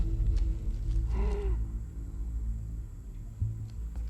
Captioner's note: wheezing